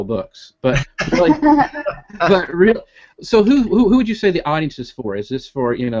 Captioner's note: laughing